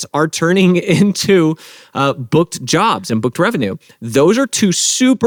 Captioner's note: chuckles